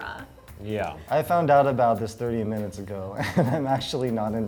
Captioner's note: laughs